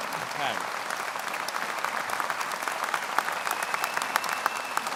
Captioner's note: audience applauds